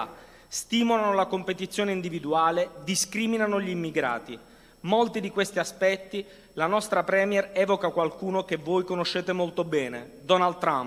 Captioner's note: speaking non-english language